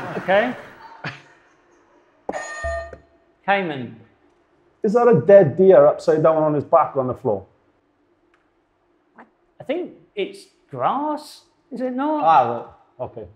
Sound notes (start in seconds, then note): 2.3 buzzer sounds